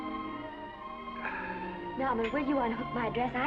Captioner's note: gentle music; Norman sighs